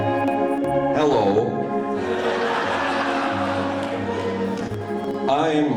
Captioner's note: audience laughing